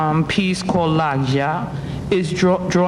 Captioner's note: speaking foreign language